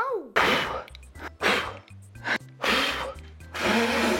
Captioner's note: exhaling